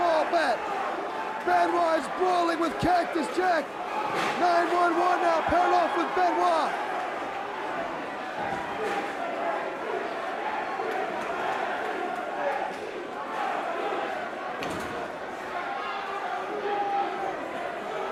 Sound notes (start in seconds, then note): 7.1 crowd chatter